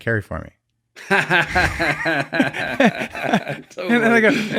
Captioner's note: laughing